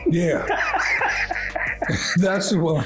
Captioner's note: laughing